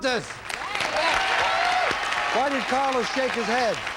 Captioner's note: audience applauding